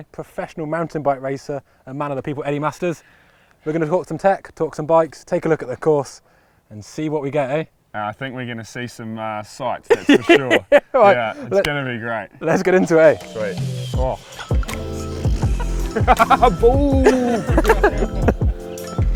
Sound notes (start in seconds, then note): 9.9 laughs; 14.2 laughs; 14.4 upbeat music